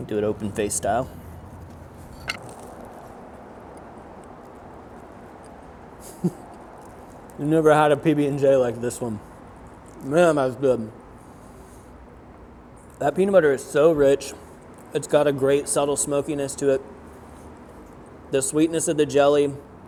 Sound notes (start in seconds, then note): 2.3 bread crunches; 4.6 traffic hissing; 6.1 chuckles